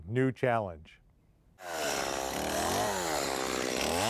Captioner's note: motor revs up and purrs